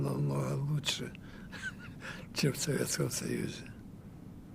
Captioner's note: laughing